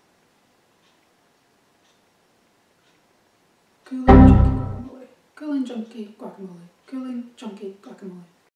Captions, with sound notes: ... (error sound effect) Cooling, chunky guacamole Cooling, chunky guacamole